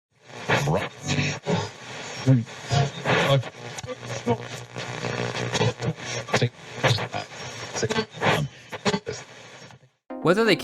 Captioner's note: radio static